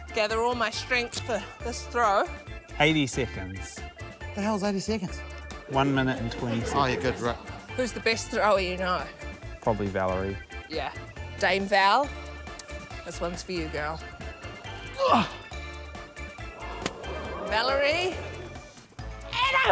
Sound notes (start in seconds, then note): 16.4 grunts